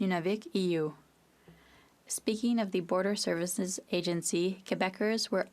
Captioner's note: speaking French